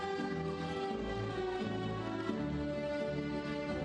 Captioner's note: none